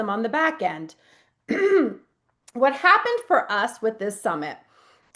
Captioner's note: clears throat